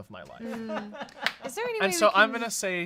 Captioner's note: off-camera laughing